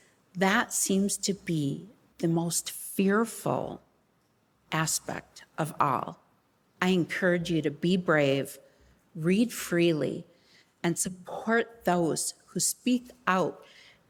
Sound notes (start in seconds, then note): none